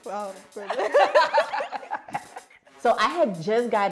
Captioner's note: laughing